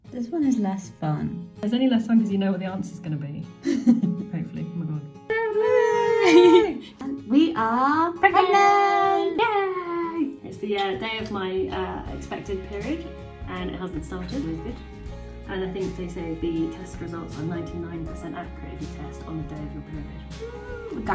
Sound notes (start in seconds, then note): 5.9 both laughing